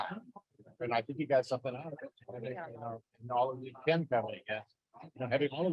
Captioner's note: faintly speaking